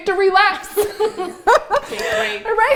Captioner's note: laughs